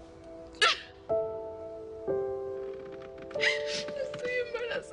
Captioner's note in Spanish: Sollozos